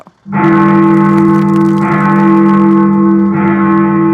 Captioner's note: bell tolling